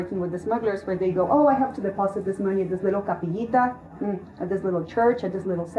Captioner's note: Spanish